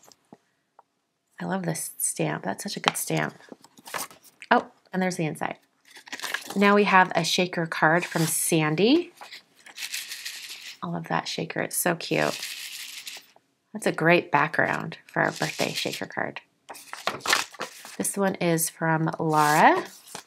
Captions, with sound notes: I love this stamp, that's such a good stamp. Oh, and there's the inside. Now we have a shaker card from Sandy. (card rattling) I love that shaker, it's so cute. (card rattling) That's a great background for a birthday shaker card. This one is from Laura.